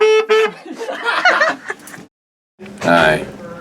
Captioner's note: laughter